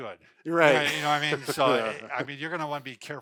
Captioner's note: laughs